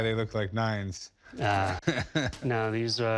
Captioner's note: chuckles